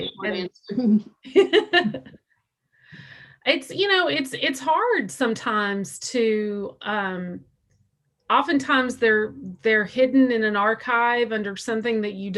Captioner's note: laughs